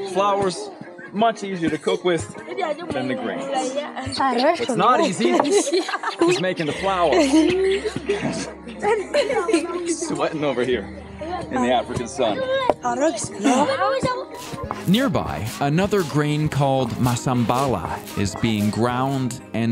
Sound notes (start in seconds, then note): 7.4 children laughing